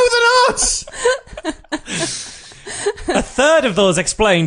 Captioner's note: laughs